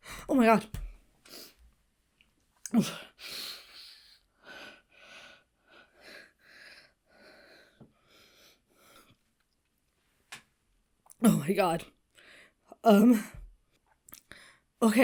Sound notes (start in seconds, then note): 2.7 Hana gulps; 4.4 Hana breathes heavily